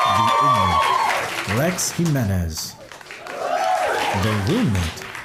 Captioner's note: applause